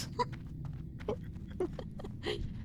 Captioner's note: laughter